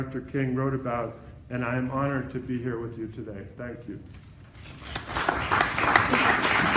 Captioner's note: applause